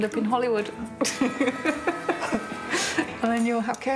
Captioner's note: laughs